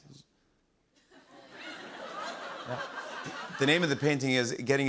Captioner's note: laughter